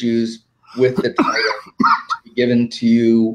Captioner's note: coughing